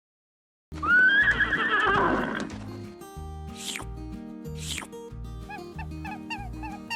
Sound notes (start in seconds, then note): 0.8 farm animals